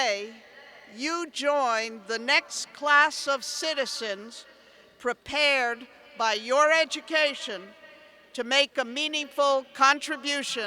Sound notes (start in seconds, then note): none